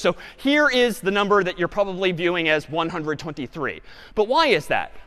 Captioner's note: none